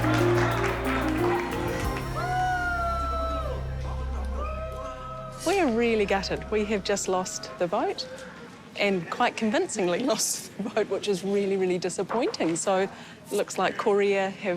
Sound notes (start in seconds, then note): 0.0 applause; 6.2 cheering